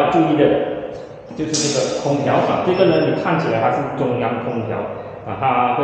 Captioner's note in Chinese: 冷气机